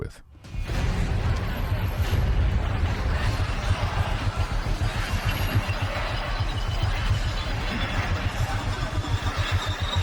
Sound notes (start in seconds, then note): 0.5 frantic metallic noises